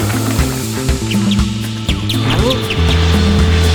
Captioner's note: birds tweeting; airplane engine roaring